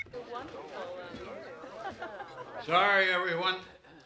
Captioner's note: guests chattering